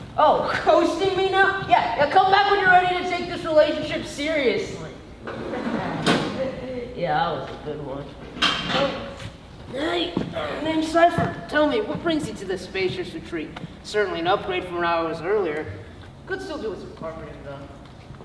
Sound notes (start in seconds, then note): 4.9 chuckles; 5.2 door closes